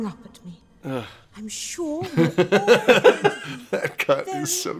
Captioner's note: laugh